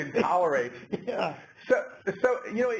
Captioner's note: laugh